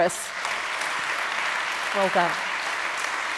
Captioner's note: audience clapping